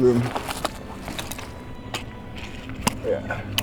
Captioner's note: rustling